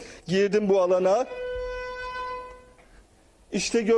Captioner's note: alarm